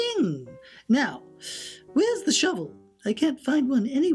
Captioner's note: deep inhale